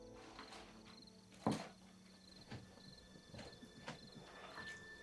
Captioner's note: crickets